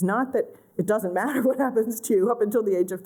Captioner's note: laughter